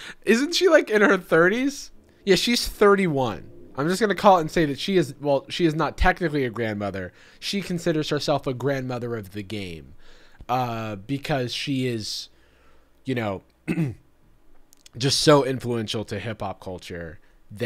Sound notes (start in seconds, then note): 13.6 clears throat